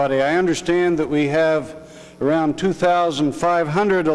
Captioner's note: none